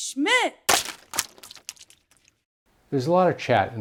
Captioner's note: paint splashes